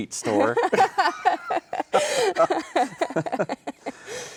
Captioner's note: both laughing